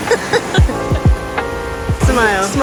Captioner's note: laughing